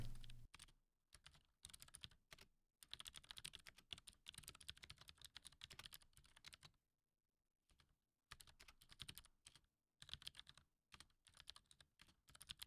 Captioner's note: typing